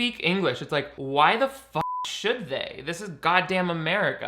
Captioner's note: beep